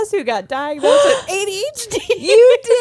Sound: gasps; laughs

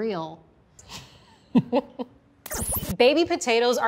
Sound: laughs

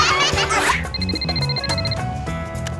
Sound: laughing; ringing

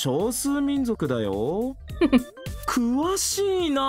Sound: chuckles

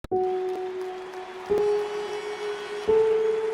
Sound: audience applauding; gentle music playing

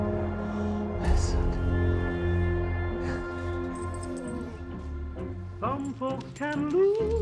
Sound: CX404 whimpering

